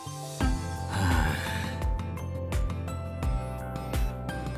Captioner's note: sigh